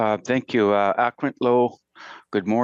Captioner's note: speaks in Indigenous language